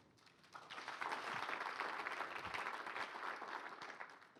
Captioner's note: applause